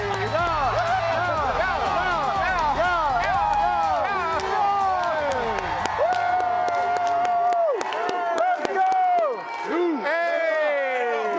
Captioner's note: cheering